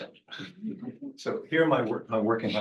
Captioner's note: audience laughing